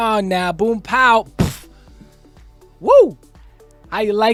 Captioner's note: pow